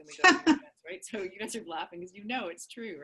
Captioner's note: laughter